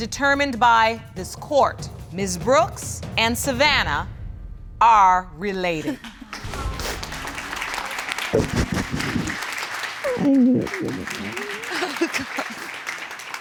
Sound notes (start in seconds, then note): 6.2 audience applauding; 10.0 sobbing; 10.0 both sobbing